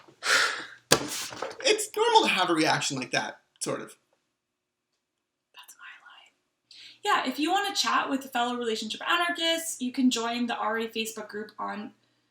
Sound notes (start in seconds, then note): 5.3 whispered